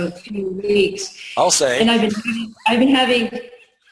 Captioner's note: laughs